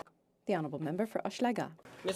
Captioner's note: speaking French; applause